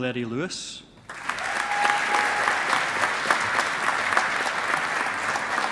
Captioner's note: audience applauding